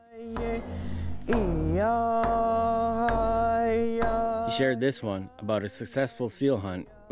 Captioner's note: chanting